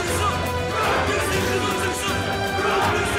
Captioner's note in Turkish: Hep bir ağızdan